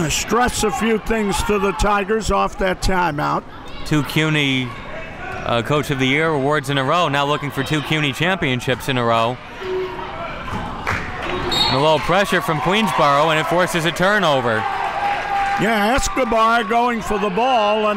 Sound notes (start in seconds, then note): 11.4 whistle blows